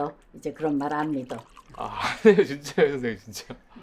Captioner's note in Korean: 웃음